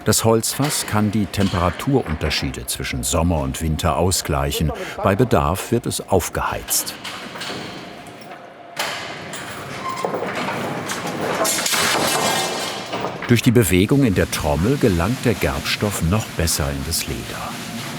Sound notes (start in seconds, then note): 8.8 clattering; 11.4 something metal falls over